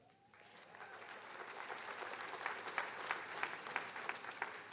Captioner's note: attendees applauding